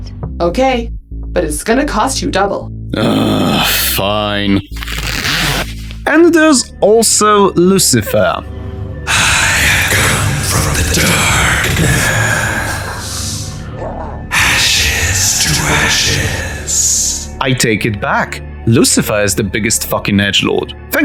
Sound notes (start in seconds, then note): 4.6 unzips